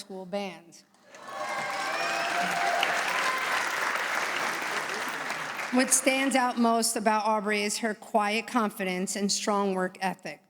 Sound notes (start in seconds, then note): 1.1 applause